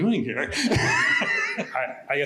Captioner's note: laughter